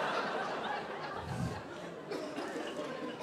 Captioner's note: audience laughing